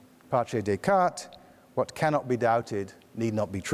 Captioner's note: speaks foreign language